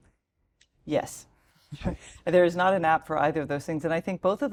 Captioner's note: laugh